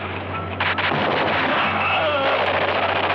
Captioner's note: groaning; gunshots